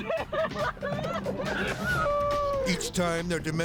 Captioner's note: teenagers laughing